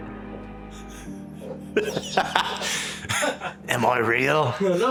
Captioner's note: laughs